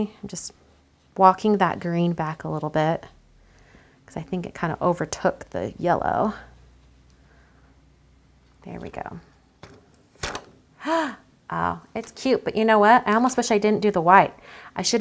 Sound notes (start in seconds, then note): 10.8 gasps